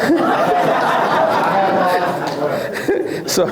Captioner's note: laughs